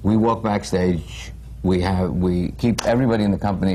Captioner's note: none